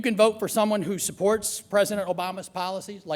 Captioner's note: none